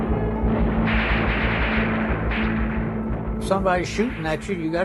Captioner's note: gunshots